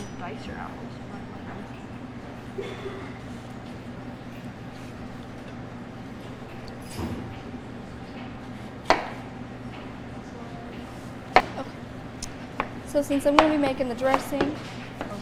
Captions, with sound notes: (metallic clink) - Slice your apples. (audience member coughs) (knife slices apple) (knife slicing apple) - Okay. So since I'm gonna be making the dressing,